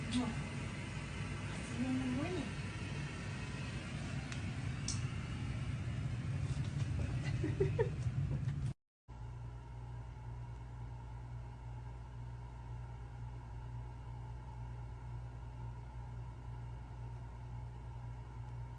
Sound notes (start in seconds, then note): 7.2 giggles